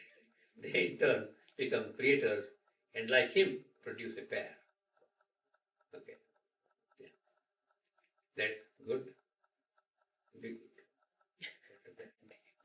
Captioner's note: laughter